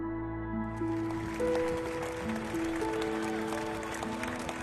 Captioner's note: cheers and applause